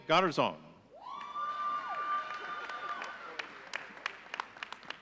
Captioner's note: audience cheering